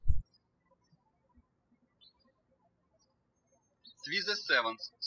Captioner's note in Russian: птички щебечут